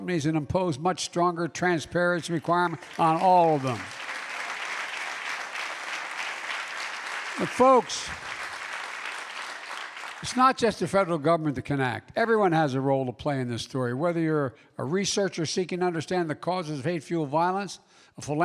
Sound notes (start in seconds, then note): 4.3 applause